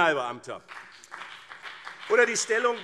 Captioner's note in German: Beifall BÜNDNIS 90/DIE GRÜNEN und CDU